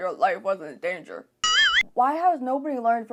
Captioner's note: confused ding noise